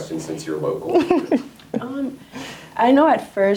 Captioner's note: laughs